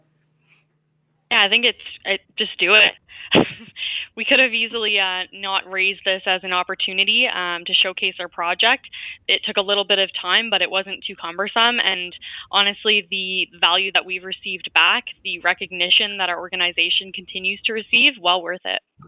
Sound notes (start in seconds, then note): 3.1 chuckle